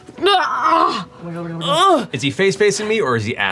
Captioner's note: groans